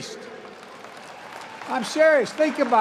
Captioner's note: applause